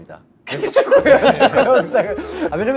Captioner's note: laughing